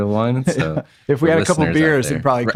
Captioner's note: laughs